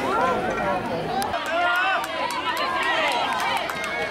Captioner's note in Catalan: La gente anima